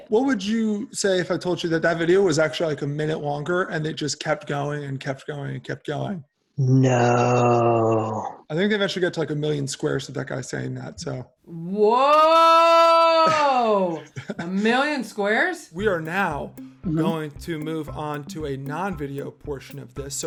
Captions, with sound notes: - What would you say if I told you that that video was actually like a minute longer and it just kept going and kept going and kept going? - Nooo. - I think they eventually get to like a million squares of that guy saying that, so... - Whoooooa! - (chuckles) - A million squares? - We are now going to move on to a non-video portion of this.